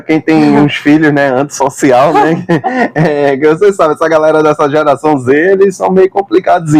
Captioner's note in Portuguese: risadas